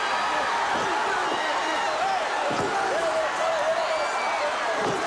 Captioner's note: audience hollers